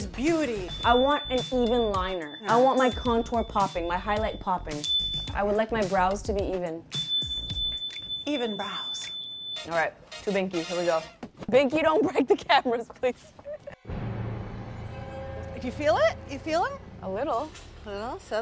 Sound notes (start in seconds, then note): 4.2 chime dings; 7.0 chime dings; 13.2 chuckling